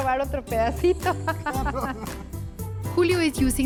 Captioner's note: laugh